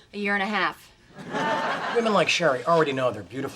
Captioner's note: audience laughs